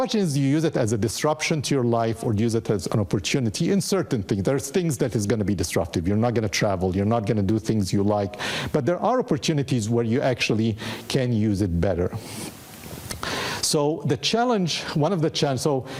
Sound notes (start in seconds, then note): none